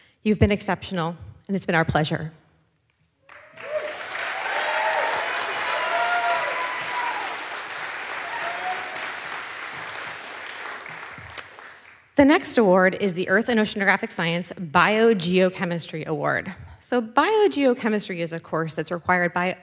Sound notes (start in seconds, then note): 3.2 audience applauds; 3.3 audience cheers